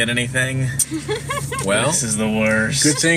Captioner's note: laughs